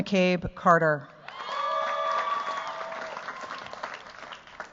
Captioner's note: cheers, applause